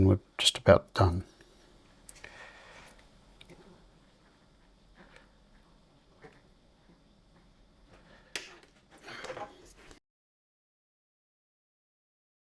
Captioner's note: silence